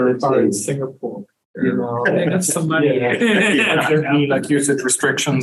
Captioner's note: laughs